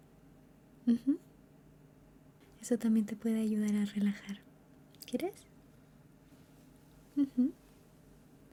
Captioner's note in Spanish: carraspeo